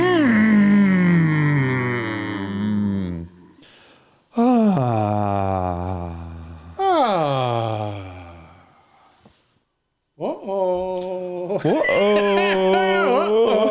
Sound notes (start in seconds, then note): 2.3 humming